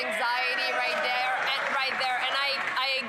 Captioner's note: some Applause